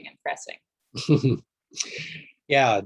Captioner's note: chuckles